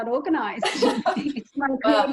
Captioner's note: speakers laugh